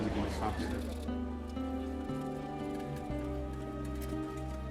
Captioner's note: cameras clicking